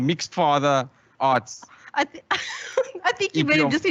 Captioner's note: starts laughing